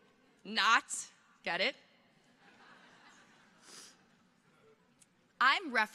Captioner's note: audience chuckles